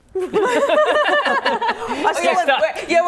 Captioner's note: laughing